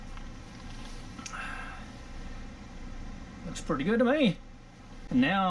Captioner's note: sigh of relief